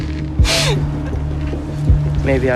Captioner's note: sobbing